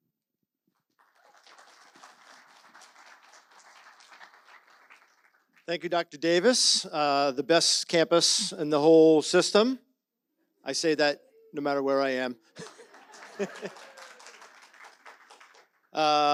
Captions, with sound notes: (audience applauds) Thank you, Dr. Davis, the best campus in the whole system. I say that no matter where I am. (chuckles) (audience laughs and applauds)